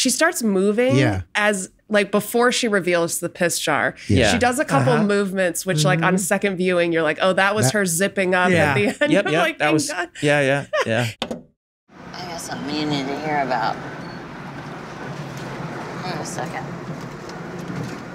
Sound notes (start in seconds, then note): 10.1 laughs